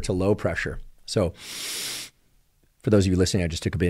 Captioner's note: inhales